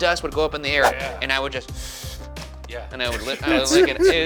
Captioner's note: sucks air